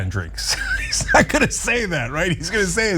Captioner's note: laugh